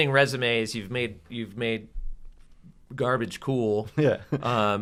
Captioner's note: laugh